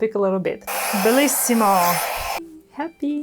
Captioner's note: blow dryer blowing